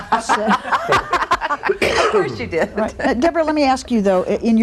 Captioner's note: laughter